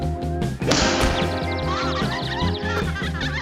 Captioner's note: birds chirping